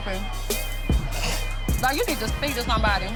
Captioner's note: snorts